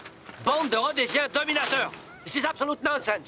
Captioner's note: shouts in French